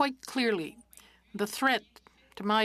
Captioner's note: speaking French